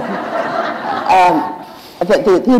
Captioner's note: laughter